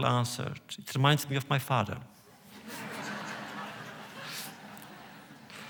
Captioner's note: laughter